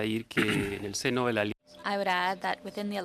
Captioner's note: speaking French